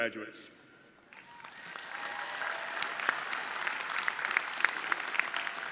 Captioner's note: audience cheering